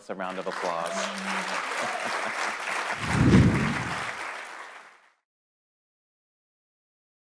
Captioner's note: panelists applauding; logo whooshes